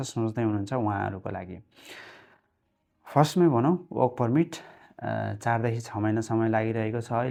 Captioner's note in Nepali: नाकबाट निकालेको आवाज